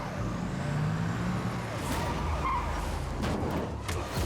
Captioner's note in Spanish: chirrido de neumáticos